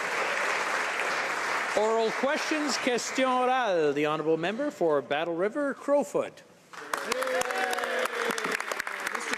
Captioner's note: applause